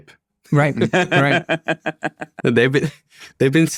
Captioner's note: laughing